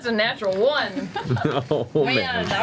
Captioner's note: laughs